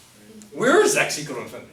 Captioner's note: voiceover